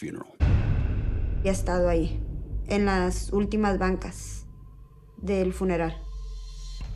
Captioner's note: speaking Spanish